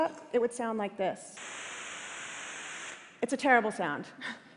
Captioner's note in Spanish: Estática